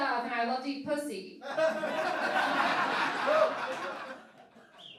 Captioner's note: laughing